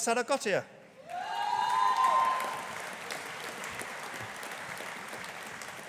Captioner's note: audience applauding